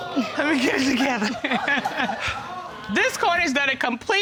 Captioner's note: laughing